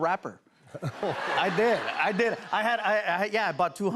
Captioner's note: laughter